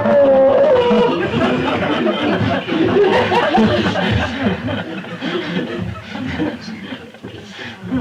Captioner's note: laughter